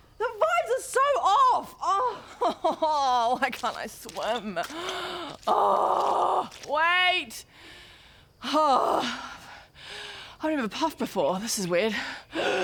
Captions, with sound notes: the vibes are so off! *sobs* why can't I swim? *awwwwwgh* Wait! *hrrgh* I've never puffed before, this is weird